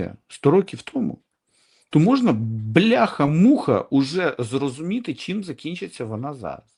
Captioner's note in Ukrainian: сопіння